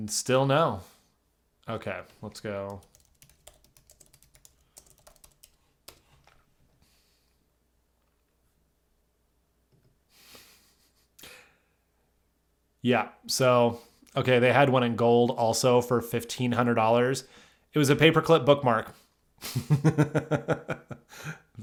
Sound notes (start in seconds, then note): 2.6 keyboard clicking; 10.7 chuckling; 20.7 laughs